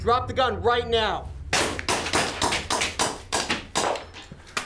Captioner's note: gun fires